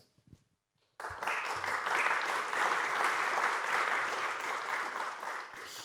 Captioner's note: applause